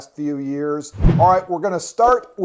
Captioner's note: air whooshing